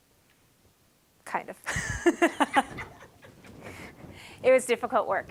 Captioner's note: laughing